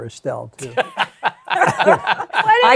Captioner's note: laughter